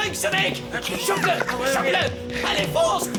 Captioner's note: laughter